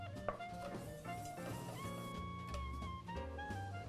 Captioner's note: whisk scraping; upbeat festive music continues